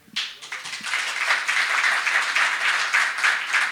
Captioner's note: applause